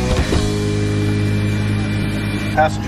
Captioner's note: engine roaring